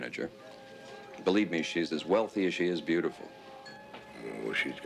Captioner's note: diners chattering